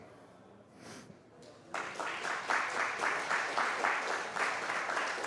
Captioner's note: applause